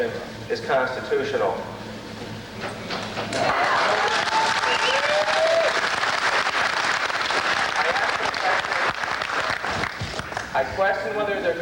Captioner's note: applause